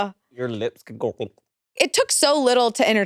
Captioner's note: gulps